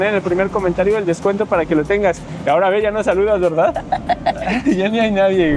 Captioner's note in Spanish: risas